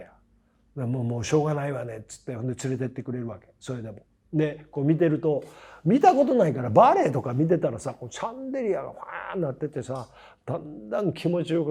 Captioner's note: laugh